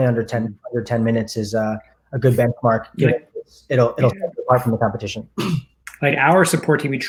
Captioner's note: murmurs